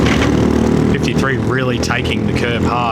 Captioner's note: engine noise